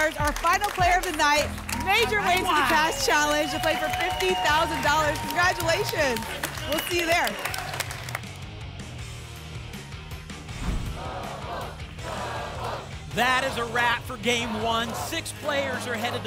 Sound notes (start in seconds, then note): 10.5 whoosh; 10.8 audience chanting "double!"